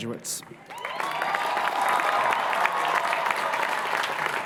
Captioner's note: applause, cheering